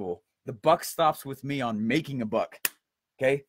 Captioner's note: hits hand